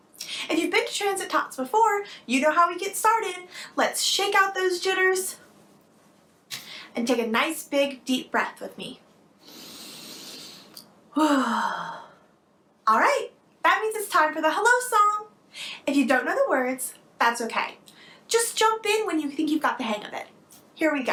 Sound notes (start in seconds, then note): 9.4 exhales; 9.4 inhales